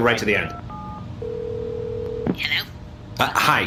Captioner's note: phone ringing